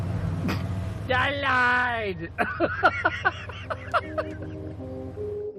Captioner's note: laughing